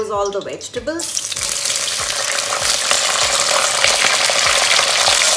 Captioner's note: oil popping